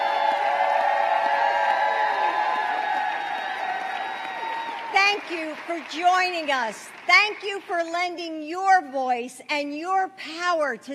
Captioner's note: applause